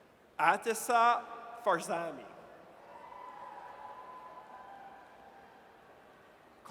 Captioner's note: audience cheers